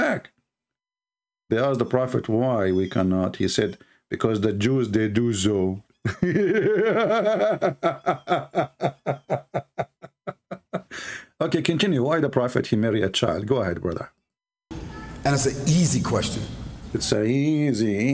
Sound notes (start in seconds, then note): 6.0 Ketawa